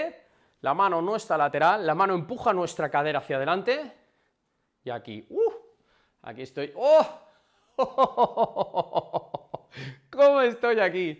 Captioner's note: laughs